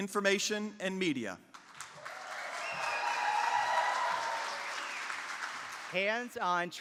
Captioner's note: applause